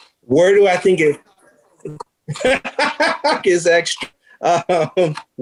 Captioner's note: laughs loudly